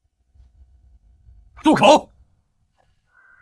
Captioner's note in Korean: 침묵